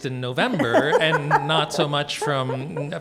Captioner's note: laughs